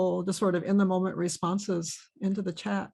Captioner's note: none